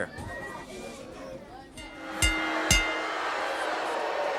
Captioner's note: crowd cheering; bell ringing